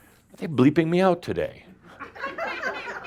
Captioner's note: some chuckles